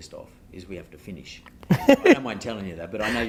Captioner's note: laughing